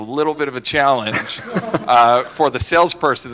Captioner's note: laughter